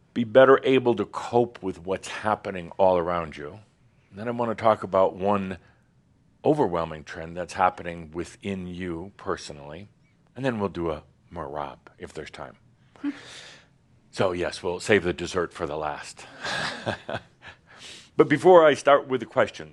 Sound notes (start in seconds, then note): 16.3 chuckling